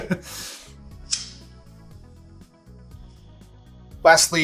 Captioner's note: laughing; lighter striking